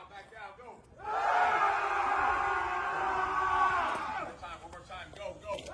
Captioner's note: screaming